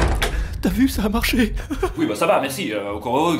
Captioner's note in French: rires